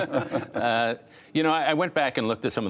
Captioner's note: laughter